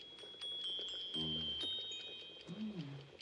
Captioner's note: CLOCK CHIMlNG